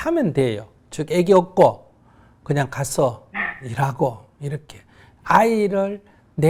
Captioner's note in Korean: 질문자 웃음